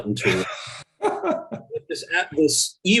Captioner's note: laughs